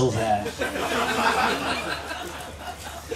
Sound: laughter

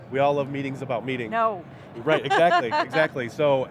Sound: laughs loudly

